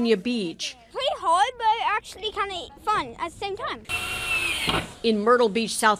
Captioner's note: drill